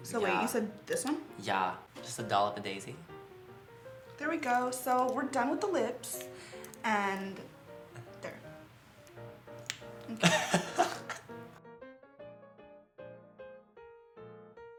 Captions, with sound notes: - So wait, you said this one? - Yeah, just a dollop of daisy. - There we go, so we're done with the lips, and there. (laughs) (light music)